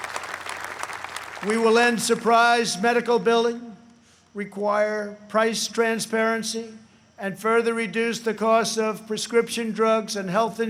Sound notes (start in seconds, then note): 3.1 applause